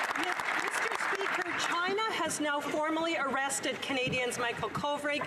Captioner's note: some Applause